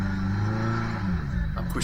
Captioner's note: engine revving